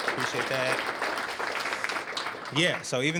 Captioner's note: applause